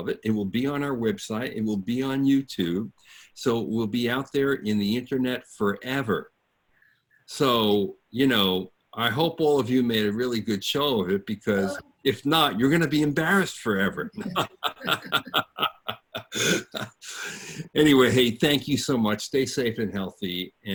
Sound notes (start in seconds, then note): 13.7 group laughs